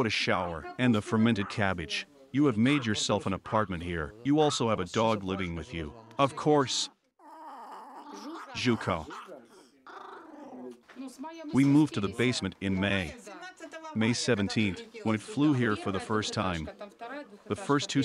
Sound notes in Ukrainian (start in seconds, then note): 7.2 собака гарчить; 9.2 Жужа гарчить